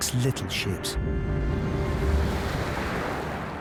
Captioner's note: intense instrumental music; waves crashing; waves rushing